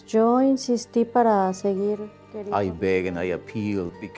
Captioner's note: woman speaks Spanish